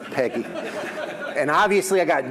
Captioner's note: audience laughs